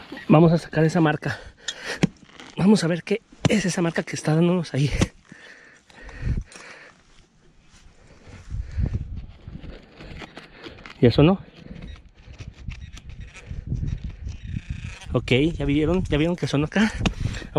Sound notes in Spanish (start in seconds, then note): 12.7 sonido bep del pin pointer